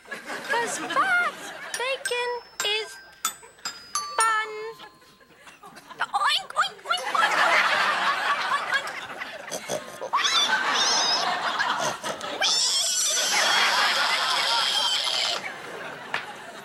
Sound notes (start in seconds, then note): 5.1 Ethan oinking; 5.1 audience laughing; 9.8 Ethan squealing like a pig; 13.5 audience laughing